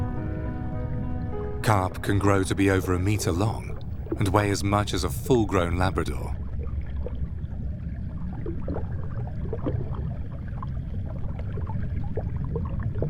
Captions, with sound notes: Carp can grow to be over a meter long and weigh as much as a full-grown Labrador. (water sloshes)